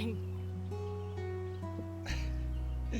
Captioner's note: laughs